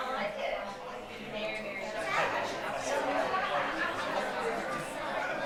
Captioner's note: attendees chatter